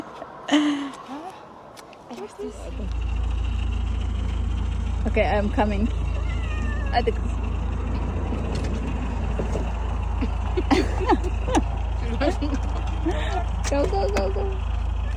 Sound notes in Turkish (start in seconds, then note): 10.2 kahkaha